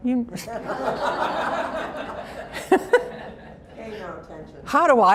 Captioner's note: laughter